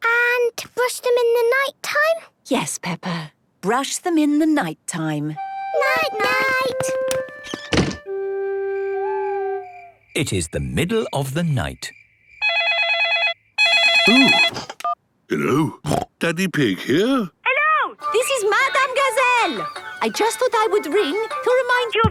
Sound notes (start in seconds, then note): 8.8 owl hooting; 13.6 phone ringing; 15.8 snorting